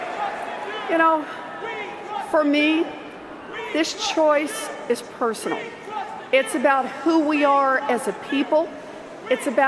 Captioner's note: cheers and Applause